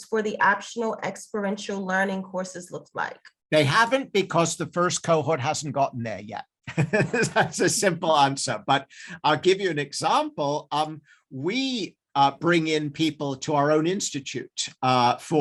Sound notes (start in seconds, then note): 6.7 laughs